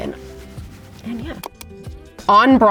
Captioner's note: mouse clicks